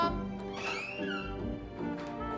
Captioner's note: door opening